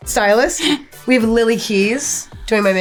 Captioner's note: chuckles